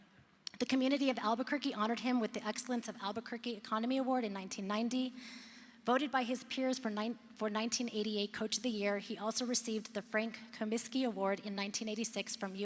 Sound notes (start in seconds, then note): none